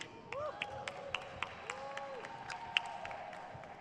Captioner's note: crowd claps